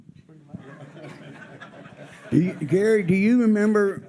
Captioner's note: audience laughs